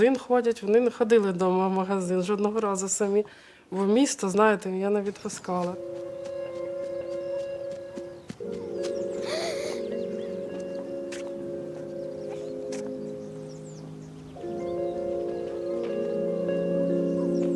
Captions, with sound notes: They go to the store; they never went home once. The city, you know, I didn't let them go. [The sound of running] [Inspiring music] [Deep breath]